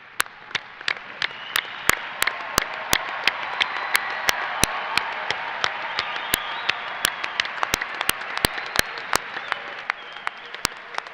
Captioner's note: applause